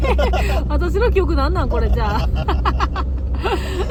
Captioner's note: laughs